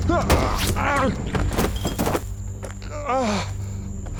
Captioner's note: gunshot; groaning; breathing heavily